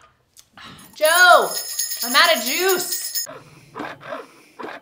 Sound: she loudly jingles the bell

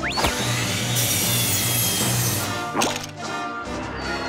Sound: artoo beeps; sawing sounds

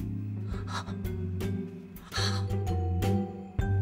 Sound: gasps

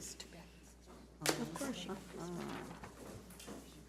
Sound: women whispering

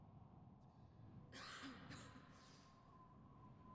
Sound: distant coughs

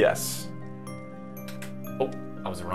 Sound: button press

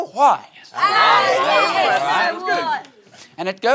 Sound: cheering

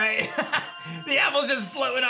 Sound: chuckles

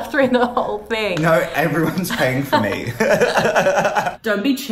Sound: laughs

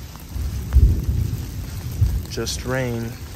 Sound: thunder rumbling

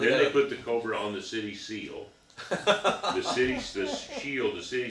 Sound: laughing

